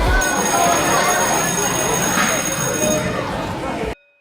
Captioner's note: school bell rings